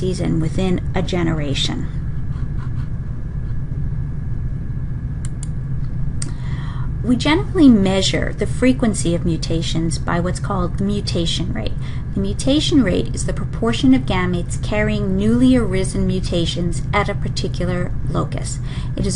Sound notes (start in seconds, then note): 5.2 mouse clicking